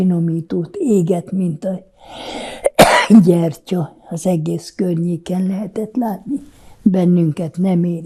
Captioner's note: coughing